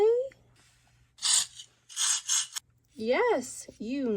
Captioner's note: hedgehogs scuttling